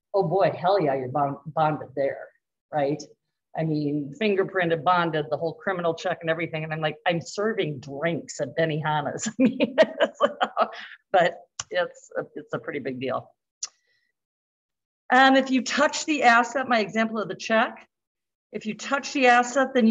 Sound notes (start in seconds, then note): 9.3 laughter